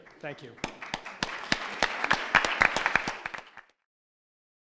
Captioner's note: applause